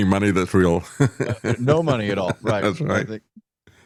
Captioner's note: laughing